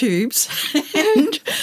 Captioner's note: laughter